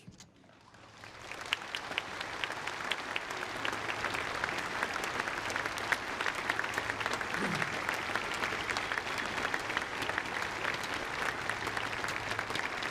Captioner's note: applause